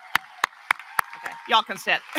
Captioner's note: applause